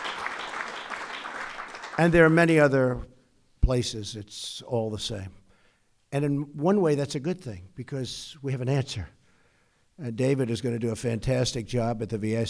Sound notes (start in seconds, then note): 0.0 applause